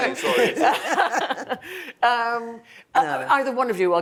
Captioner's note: both laughing